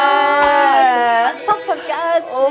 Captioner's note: slap